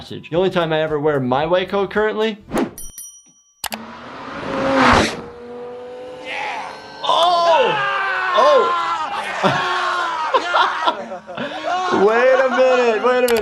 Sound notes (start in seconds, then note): 2.8 bell dings; 3.7 car engine roaring; 8.3 man groans